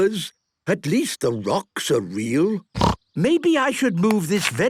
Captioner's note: snorting